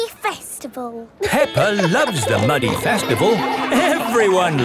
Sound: laughing

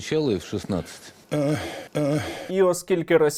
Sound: grandfather groans

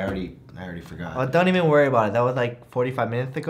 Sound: lisping

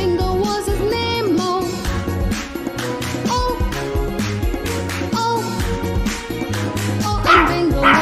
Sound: clap – Clap – Clap – Clap

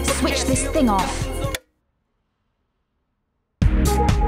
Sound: tape clicks

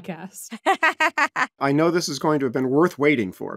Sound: laughing

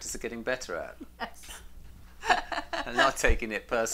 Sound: laughs loudly

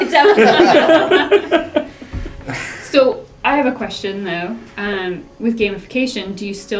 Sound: laugh

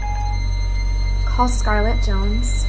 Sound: phone beeps

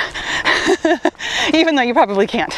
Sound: laughs

